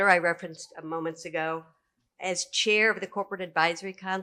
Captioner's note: none